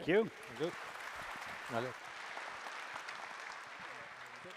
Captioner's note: applause